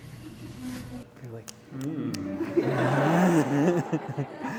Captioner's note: laughter